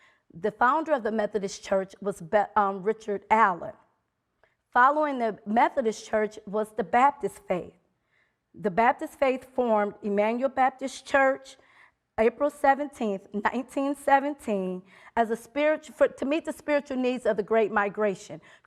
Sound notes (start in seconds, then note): none